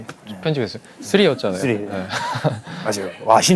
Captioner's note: laughter